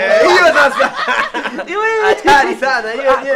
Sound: laughs

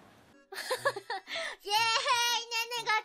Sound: inappropriately timed laughter

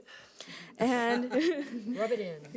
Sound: people laughing

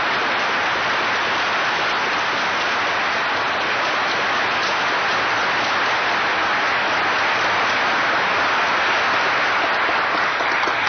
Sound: sustained applause

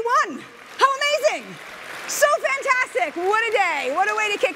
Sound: audience applauding

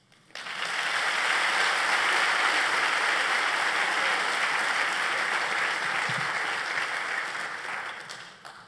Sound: applause

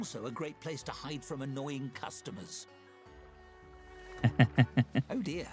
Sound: laughs

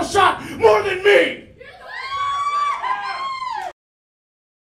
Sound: crowd cheering

